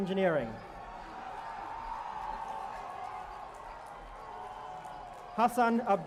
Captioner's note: cheering